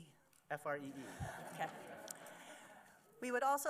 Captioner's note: laughter